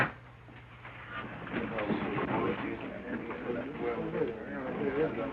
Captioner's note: crowd murmuring